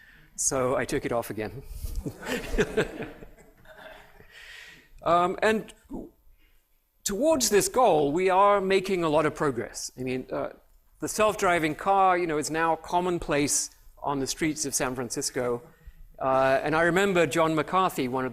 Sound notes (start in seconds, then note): 1.9 laughter